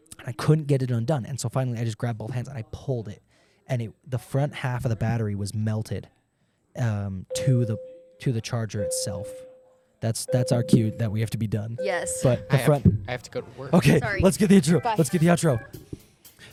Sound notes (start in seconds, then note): 10.3 school bell ringing